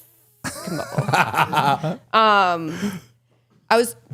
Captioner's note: laughing